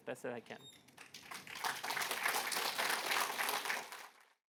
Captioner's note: applause